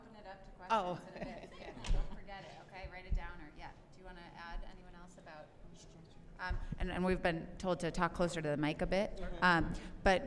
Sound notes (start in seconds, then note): 1.0 laughter